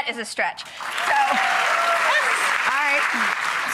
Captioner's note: applause